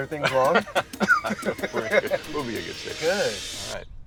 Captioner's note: laughing